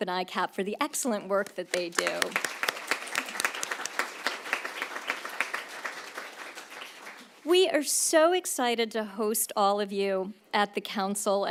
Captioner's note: applause